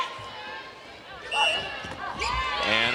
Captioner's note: whistle trills